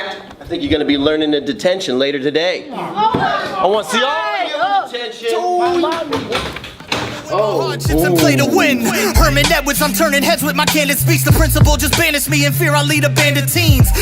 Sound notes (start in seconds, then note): 2.7 kids groan; 5.6 door opens